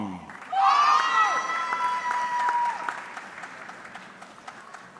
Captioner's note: audience cheering